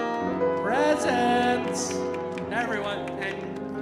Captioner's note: audience applauding